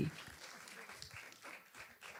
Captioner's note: audience applause